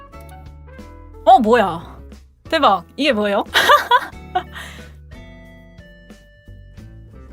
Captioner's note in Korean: 웃음